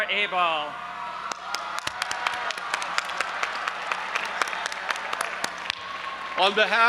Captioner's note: audience applauding and cheering